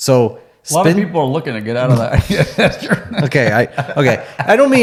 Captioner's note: both laughing